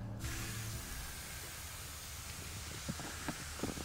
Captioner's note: water spraying